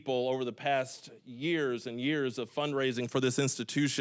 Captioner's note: none